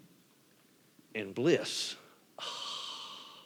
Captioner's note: exhales blissfully